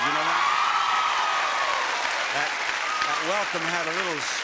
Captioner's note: audience applauding